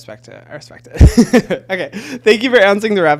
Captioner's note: laughing